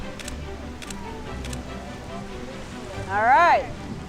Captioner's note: camera clicking